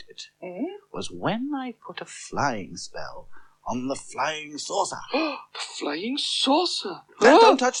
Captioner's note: gasps